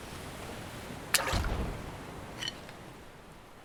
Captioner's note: splash, explosion sound